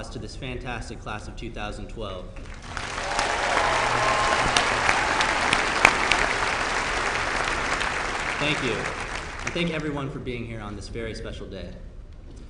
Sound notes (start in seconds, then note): 2.4 applause